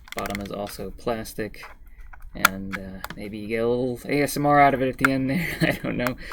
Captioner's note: chuckles